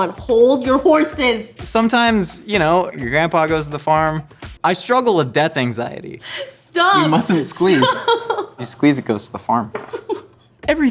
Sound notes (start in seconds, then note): 7.0 laughs